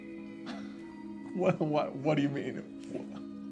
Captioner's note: chuckles